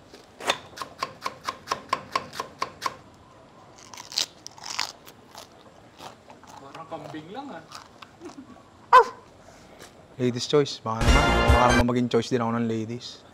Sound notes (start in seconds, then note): 8.9 barks